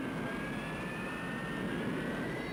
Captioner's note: plane taking off